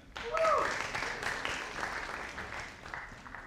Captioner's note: audience applauding